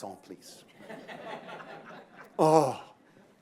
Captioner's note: laughter